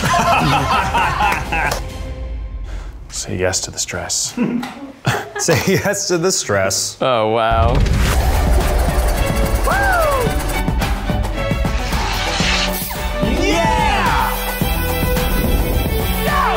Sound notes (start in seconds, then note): 0.0 all laughing; 7.5 dramatic music; 8.2 cheers